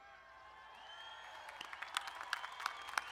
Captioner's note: crowd cheers; crowd applauding